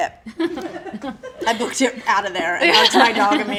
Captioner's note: laughing